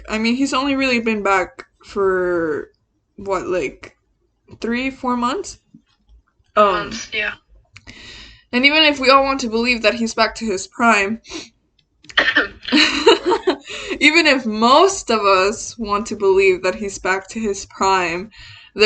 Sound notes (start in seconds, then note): 12.2 laughs; 12.4 coughs